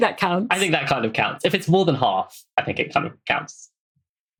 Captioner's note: laughs